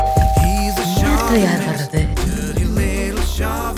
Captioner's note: in Tamil